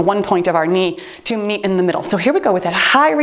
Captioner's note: timer beeps